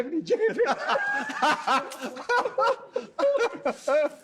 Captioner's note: all laughing